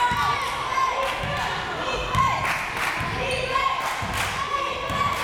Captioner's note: crowd members chanting